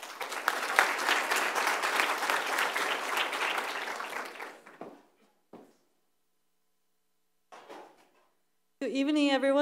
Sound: applause

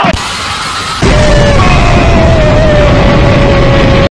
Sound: explosion

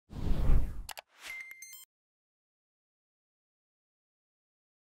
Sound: air wooshing; keyboard clicking

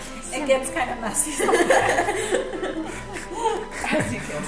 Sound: laughs

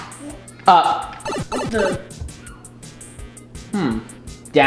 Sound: electronic beeping

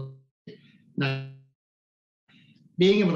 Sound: audio glitch

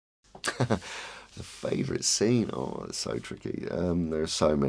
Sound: laughs

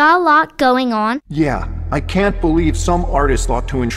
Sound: voiceover

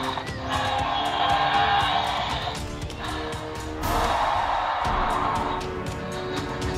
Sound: Allosaurus roars

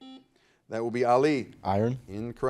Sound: buzzer buzzes

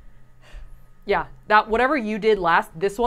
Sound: none

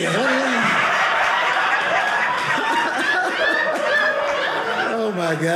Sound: audience laughing

